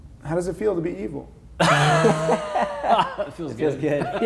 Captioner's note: laughing